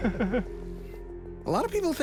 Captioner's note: both chuckling